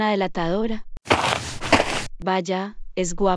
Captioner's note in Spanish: FX - Footsteps - On Multiple Dirt - Walk